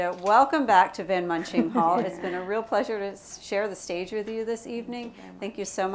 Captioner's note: laughter